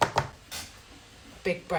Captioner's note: tapping cards on table